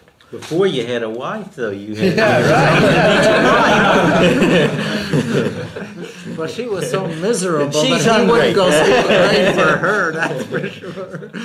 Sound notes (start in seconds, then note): 3.6 laughter; 5.6 laughs